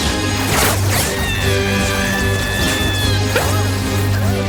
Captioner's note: The Witch screams